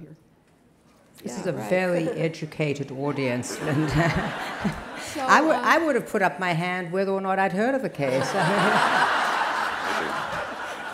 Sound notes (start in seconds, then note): 3.2 laughter